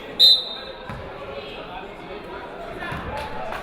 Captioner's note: whistle blaring